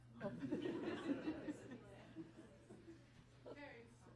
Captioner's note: group laughs